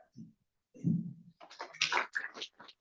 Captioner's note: applause